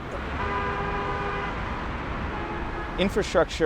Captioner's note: car hooting